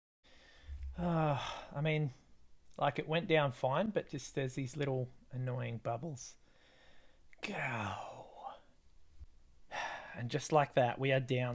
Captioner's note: Mr. Bean Noise